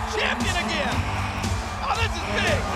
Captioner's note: audience cheering